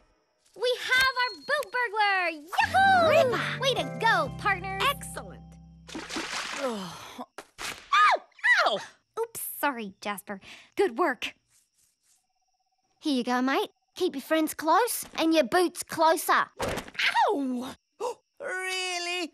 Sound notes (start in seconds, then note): 8.1 sighing; 8.7 shrieking